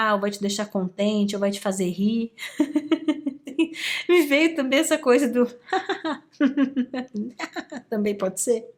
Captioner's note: laughs